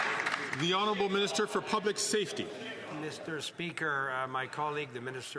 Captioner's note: some Applause